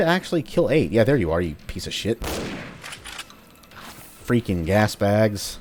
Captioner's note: bam